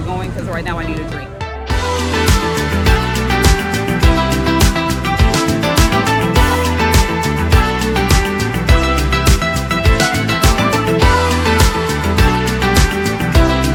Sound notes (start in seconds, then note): 0.3 exciting music; 4.6 people chattering